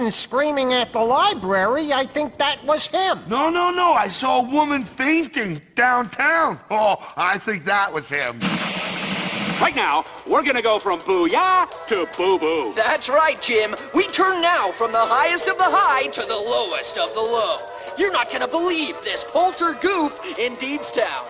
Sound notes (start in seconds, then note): 8.4 TV static that turns on randomly for dramatic convenience